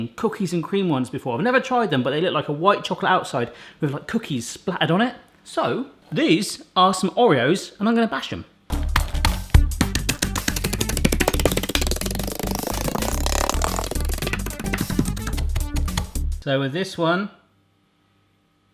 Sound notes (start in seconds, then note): 8.7 upbeat music; 8.7 cookies clattering